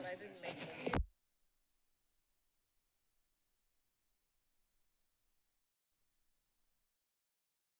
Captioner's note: silence